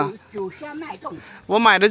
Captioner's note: drinks